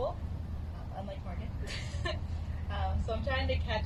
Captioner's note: laughs